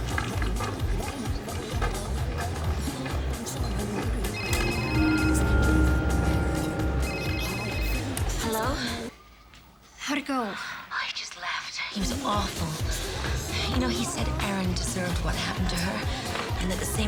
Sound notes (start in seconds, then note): 4.3 phone ringing